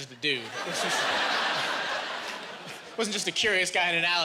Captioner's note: laughing